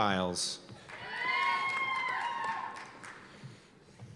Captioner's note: cheers and applause